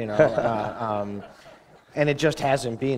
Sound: laughter

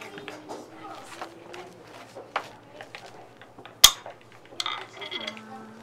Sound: background chatter

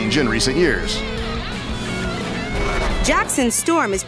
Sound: revving engines

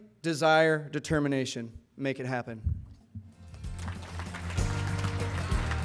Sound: applause and music

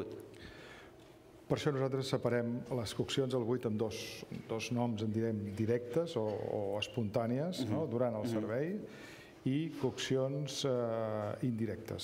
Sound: speaking catalan

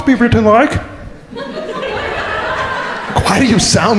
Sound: crowd laughing

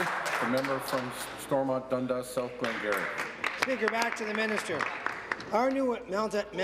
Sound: applause

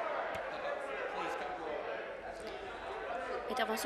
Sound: cheers; conversation din

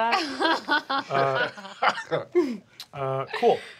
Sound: laughing

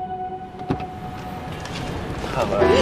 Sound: car door opening

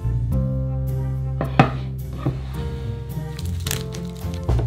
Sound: board sliding

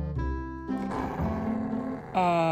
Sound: robot Dog Growling

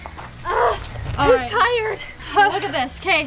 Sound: growls

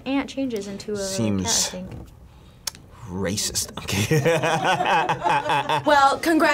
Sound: laughs

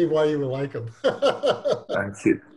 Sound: laughs

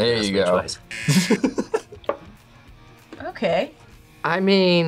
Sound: laughs

